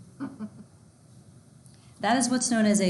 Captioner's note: laughing